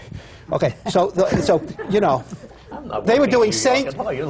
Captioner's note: laughs